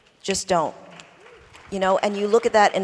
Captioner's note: applause